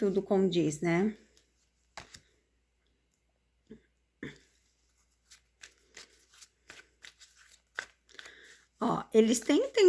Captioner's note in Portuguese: limpando a garganta